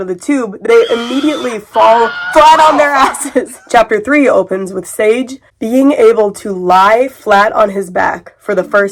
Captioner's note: screaming sounds; curious music